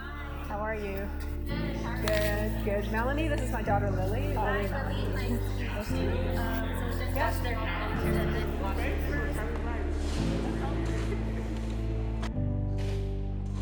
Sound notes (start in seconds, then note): 6.7 people talking in the background